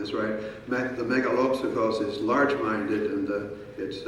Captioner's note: speaking in foreign language